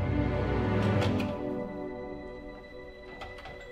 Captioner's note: door opens